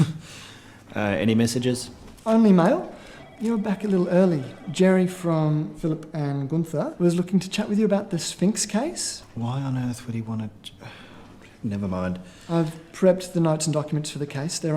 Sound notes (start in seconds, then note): 11.3 sighs